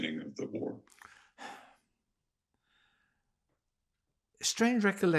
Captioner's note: sighing